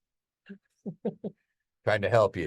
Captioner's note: speaker chuckles